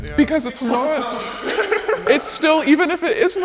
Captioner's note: people laughing